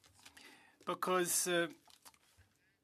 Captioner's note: speaking French